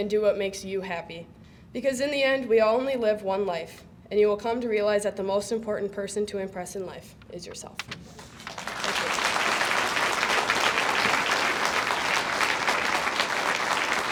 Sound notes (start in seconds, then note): 8.2 audience applauds